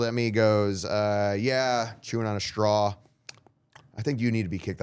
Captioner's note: lips smacking